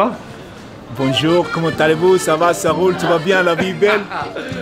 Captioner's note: speaks french